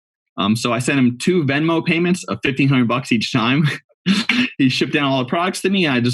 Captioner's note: laughs